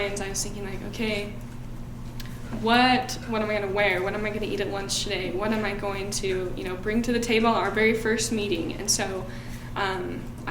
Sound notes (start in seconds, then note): none